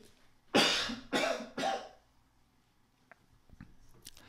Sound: man sneezing

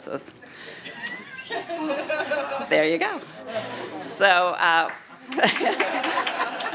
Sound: laughter

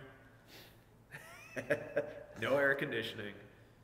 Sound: laughing

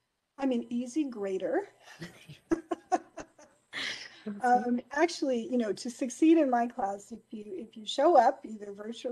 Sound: laughing

